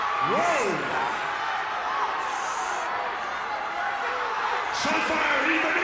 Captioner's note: audience cheers